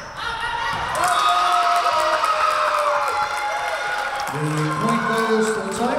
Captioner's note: crowd cheering; whistle blowing